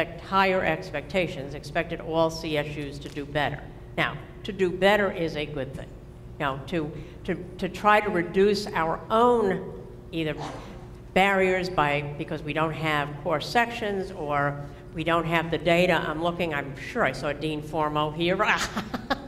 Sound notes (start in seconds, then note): 18.6 laughter